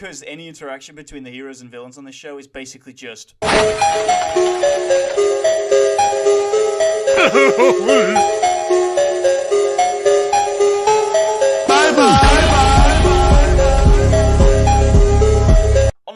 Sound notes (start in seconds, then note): 4.4 earrape